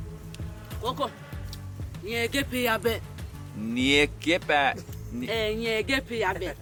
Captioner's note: speaking in native language